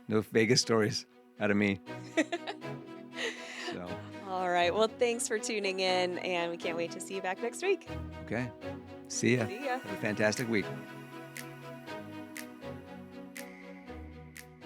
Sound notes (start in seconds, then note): 2.0 laughing; 11.9 upbeat music